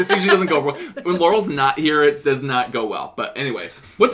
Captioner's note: laughter